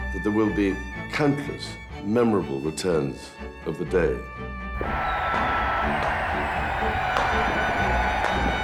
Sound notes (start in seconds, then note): 5.1 fireworks exploding; 6.8 crowd cheering; 7.7 gentle upbeat music